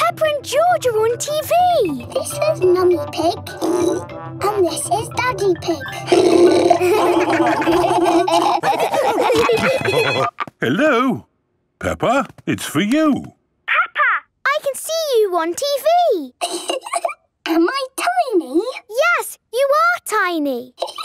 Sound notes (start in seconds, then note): 6.0 laughing; 9.5 phone ringing